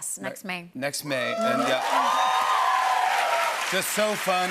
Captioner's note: cheers and applause